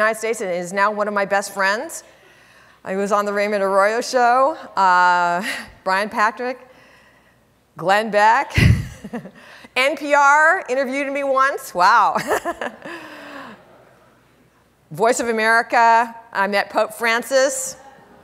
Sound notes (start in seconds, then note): 9.1 laughs; 13.1 laughs